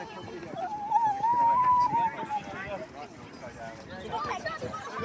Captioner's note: excited noise